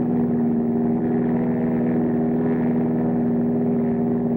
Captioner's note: airplane engine roaring